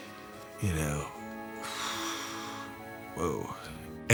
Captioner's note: sighs